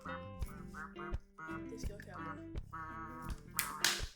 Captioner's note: quacking